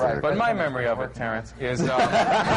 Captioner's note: laughter